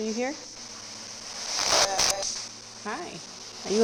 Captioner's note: spirit box scanning; spirit box voice